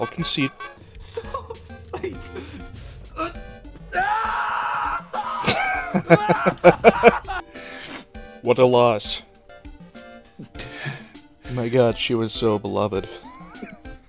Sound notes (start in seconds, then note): 5.4 laughter; 12.9 wheeze